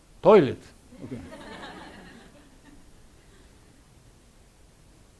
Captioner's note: audience laughs